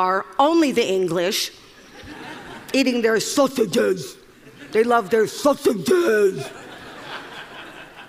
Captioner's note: 笑聲; Laughter; 笑聲